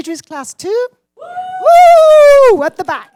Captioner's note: cheering